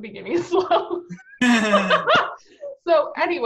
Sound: laughing; all laughing

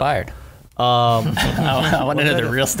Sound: laughing

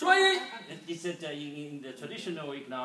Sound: speaking foreign language

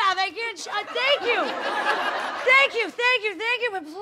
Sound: audience laughing

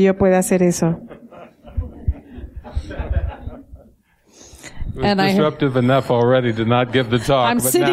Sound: laughter

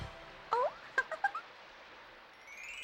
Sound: giggles

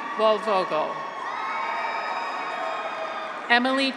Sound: graduates cheer

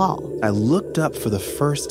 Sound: A whooshing of wind as looks up

